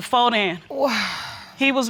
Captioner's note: judge lake sighs